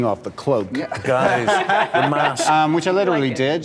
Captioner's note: laughter